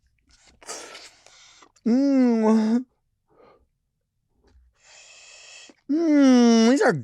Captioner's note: slurps; moans